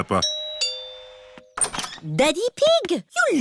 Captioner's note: doorbell rings